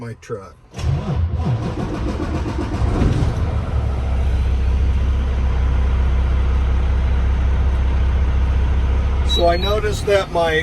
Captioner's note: engine starting